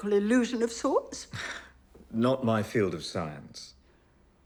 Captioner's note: chuckles